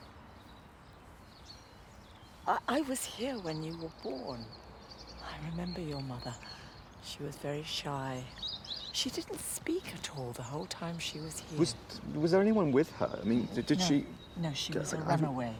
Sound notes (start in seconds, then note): none